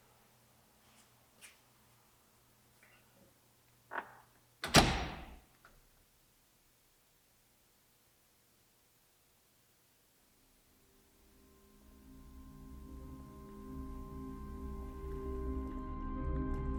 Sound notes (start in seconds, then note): 4.6 door bangs; 11.4 ominous music